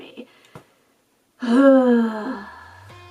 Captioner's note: defeated sigh